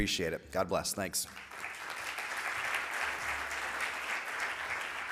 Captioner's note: audience applauds